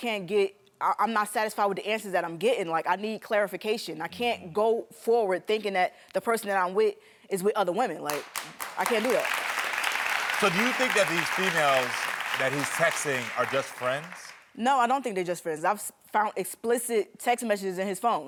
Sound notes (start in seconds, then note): 8.0 audience clapping